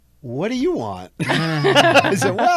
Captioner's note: all laughing